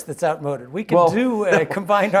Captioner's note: laugh